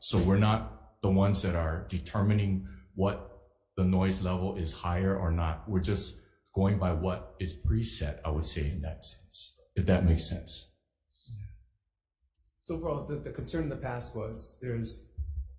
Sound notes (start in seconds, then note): none